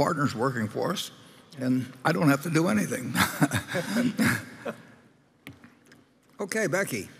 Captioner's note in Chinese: Laughter; 笑聲